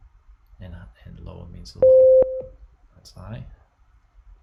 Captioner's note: high tone beeps